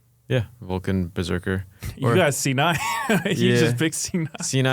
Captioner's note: laughs